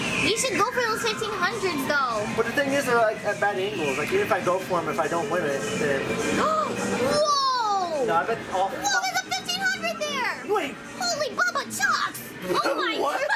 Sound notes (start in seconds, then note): 6.4 gasps; 13.1 laughing